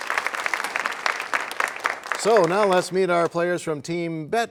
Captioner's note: applause